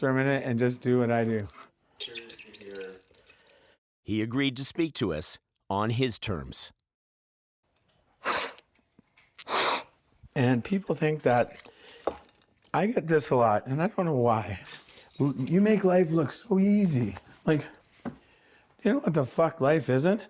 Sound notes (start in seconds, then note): 7.8 sniffing